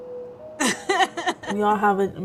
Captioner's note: laughing